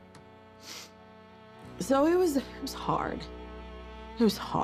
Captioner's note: sniffles